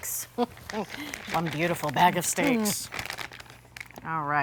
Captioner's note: laughing